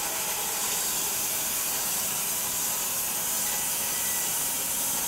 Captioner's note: machine sawing